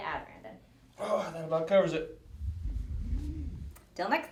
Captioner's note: heavy breaths